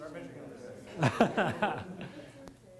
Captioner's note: laughter